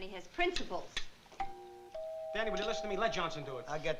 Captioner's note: doorbell